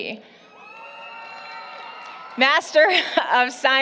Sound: applause, Cheering

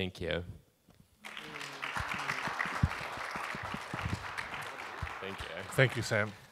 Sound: audience applauding

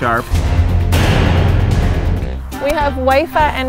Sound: dramatic music; loud bang

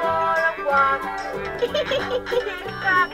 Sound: giggles

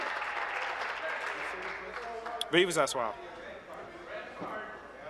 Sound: applause

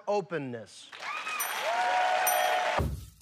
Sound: cheers and applause

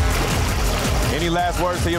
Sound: urgent music; water splashing

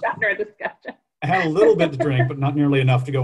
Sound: laughter

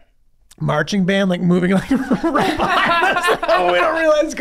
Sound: all laughing

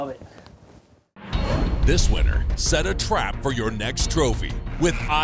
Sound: voiceover

